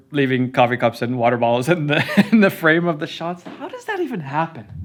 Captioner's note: laughs